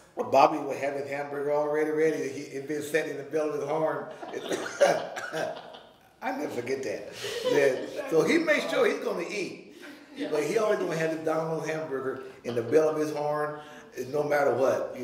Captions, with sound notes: Bobby would have his hamburger already ready. It had been sitting in the bell of his horn. (laughing) I'll never forget that. So he made sure he's gonna eat, but he already had the Don-Lo hamburger in the bell of his horn, and no matter what.